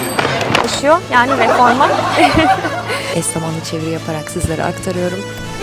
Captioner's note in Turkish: kahkaha